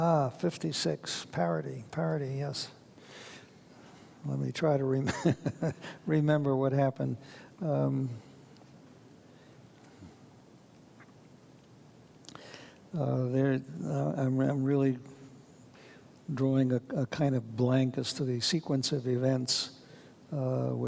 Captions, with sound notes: - Ah, '56, parody, parody, yes. I'm gonna (chuckles) try to remember what happened. I'm really, drawing a kind of blank as to the sequence of events